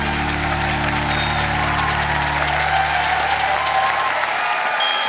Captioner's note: cheering, applause